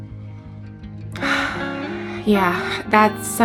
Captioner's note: woman sighs